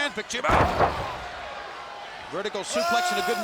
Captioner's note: fans cheering